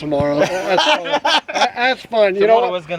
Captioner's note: laughter